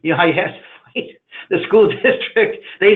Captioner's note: laughing